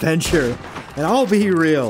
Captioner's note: gunshot